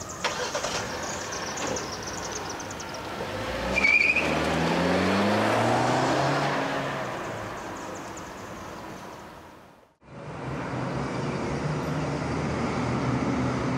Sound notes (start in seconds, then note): 0.0 car starts; 3.4 engine revs; 3.4 tires screeching